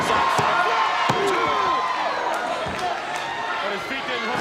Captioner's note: audience cheers